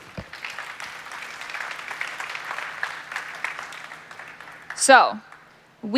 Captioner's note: applause